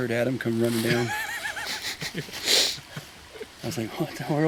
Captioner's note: all chuckling